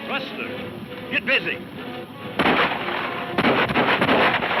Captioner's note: guns firing